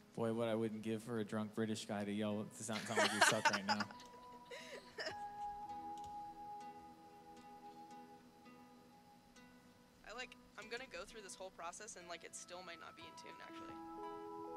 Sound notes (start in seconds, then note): 2.8 laughing